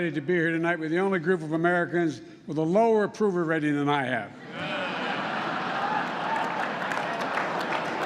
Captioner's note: laughter